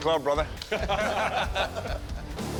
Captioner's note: laughter